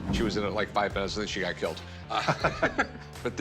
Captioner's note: laughs